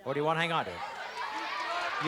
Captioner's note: shouting